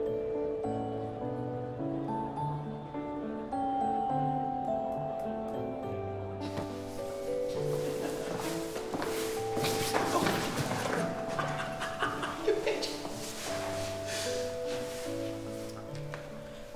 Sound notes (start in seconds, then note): 6.8 footsteps plodding; 7.6 both laughing; 9.7 body thudding; 11.4 Alex laughing